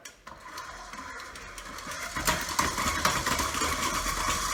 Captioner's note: mixer buzzing